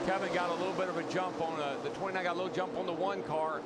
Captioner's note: engines roar